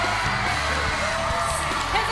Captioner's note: cheers and applause